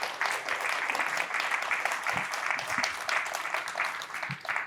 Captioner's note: applause